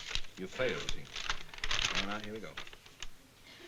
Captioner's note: paper rustling